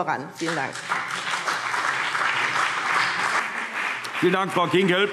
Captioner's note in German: Beifall BÜNDNIS 90/DIE GRÜNEN und CDU